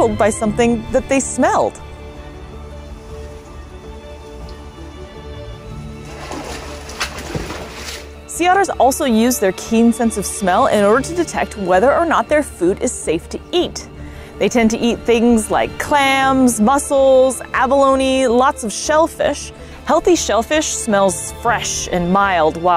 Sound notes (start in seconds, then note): 1.9 background music; 5.8 water splashing noises; 6.0 background music